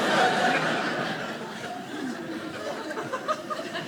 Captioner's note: audience laughing